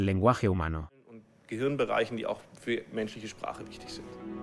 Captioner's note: German spoken audio